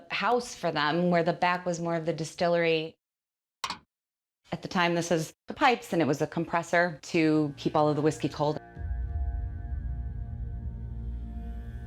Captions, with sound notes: - The front of the house was more like the house for them, where the back was more of the distillery. (switch clicking) At the time, this is the pipes, and it was a compressor to keep all of the whiskey cold. (sinister music)